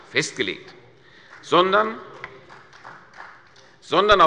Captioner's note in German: Beifall von der CDU und dem BÜNDNIS 90/DIE GRÜNEN